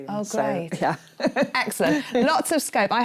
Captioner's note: chuckles